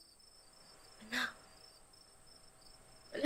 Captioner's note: whispers